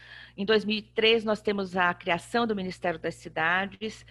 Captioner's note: speaking portuguese